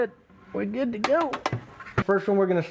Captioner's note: utensils clanking